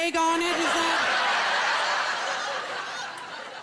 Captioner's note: laughter